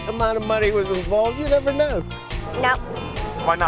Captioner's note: laughs